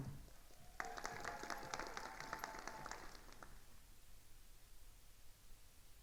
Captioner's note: attendees cheering and applauding